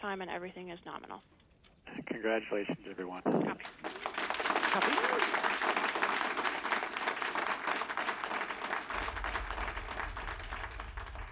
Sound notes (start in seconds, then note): 3.6 all clapping